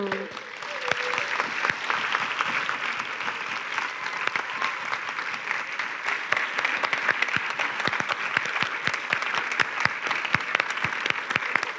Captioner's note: applause